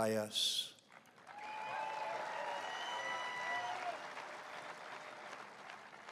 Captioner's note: applause